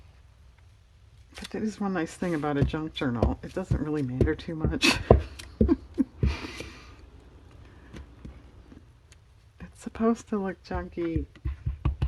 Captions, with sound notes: but that is one nice thing about a junk journal, it doesn't really matter too much (laughs) it's supposed to look junky